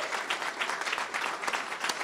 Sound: applause

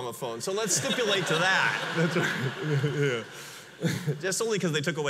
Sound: audience laughs

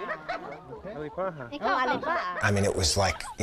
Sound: speaking mentawai

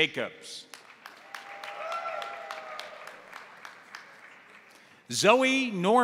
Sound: crowd applauding; crowd cheering

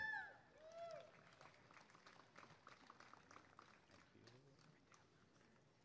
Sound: applause and cheering

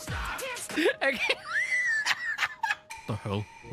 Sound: laughter

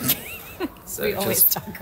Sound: chuckling

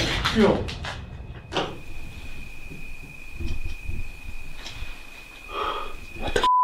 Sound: running footsteps

